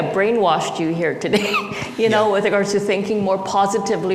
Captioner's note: laughs